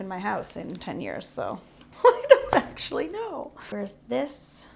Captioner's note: laughs